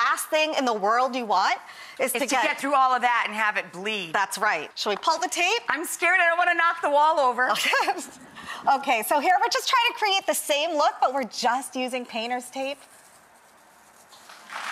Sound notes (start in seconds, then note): 7.6 laughs; 14.4 audience applause